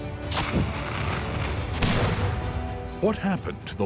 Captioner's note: gunshot